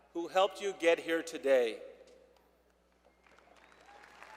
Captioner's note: applause